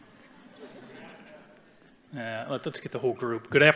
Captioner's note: audience chuckling